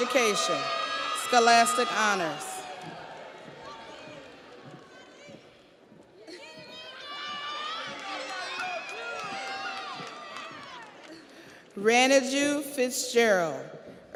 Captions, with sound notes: Nicole Henry, Early Childhood Education, Scholastic Honors. (audience applauds) (audience cheers)